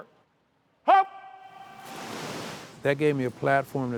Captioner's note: water splashing